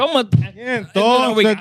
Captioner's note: speaking Spanish